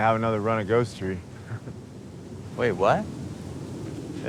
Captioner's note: Lance chuckling